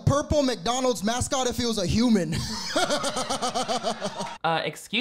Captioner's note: laughs